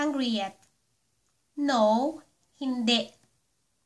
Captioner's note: Hindi